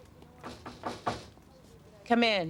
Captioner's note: knocks on door